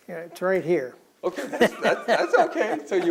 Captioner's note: pointing up, laughs